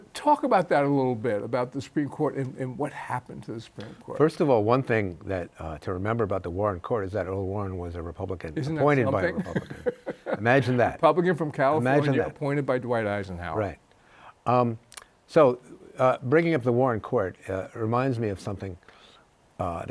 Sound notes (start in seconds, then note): 12.1 chuckles